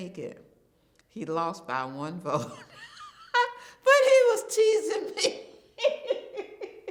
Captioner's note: chuckles